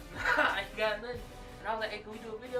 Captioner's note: laughs